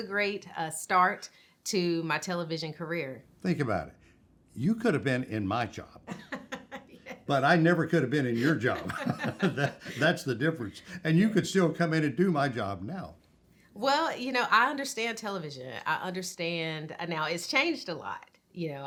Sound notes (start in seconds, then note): 8.3 laughs; 8.4 both chuckling